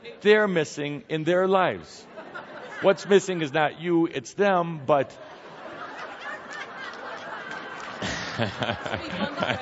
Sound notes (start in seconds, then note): 1.8 more laughter